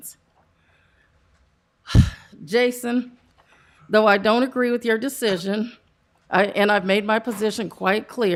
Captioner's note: sigh